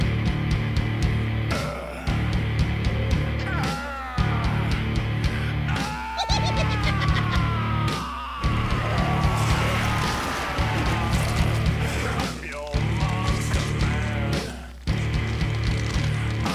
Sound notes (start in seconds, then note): 0.1 heavy metal music; 5.6 zombie giggling; 8.9 beast roaring